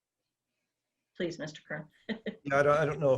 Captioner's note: laughs